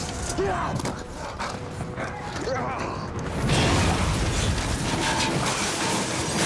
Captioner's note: crashing noise